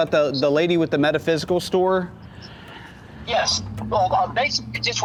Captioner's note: laughs